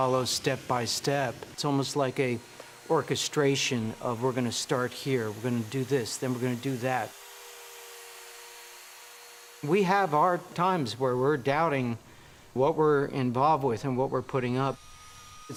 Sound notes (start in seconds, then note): none